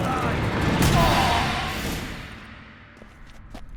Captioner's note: groan